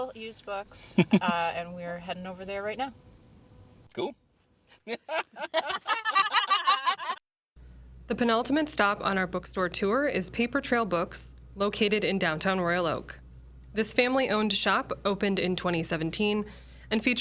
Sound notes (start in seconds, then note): 4.8 the group laughs